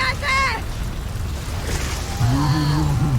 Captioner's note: powerful whoosh-crackle